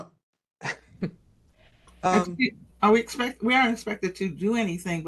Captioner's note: laugh